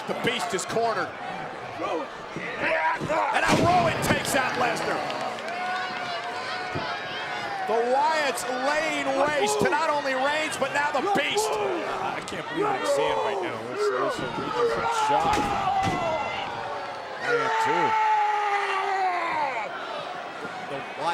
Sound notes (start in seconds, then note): 3.5 Brock thudding; 17.6 wrestlers yelling